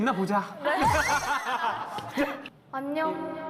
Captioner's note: laughing